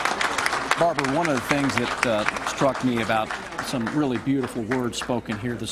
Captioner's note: applause